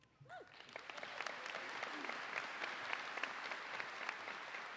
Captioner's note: audience applauding